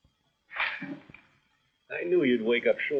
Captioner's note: sighing